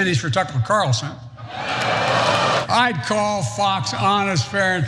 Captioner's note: laugh